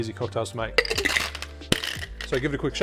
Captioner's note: ice rattling